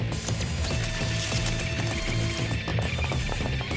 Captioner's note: zapping